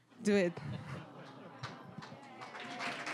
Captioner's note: audience laughing; applause